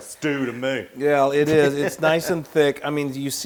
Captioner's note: laugh